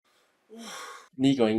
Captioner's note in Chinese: 嘆氣